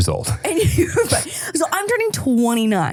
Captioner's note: laughing